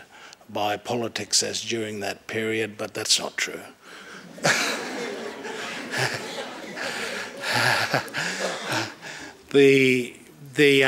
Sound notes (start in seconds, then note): 7.7 laughter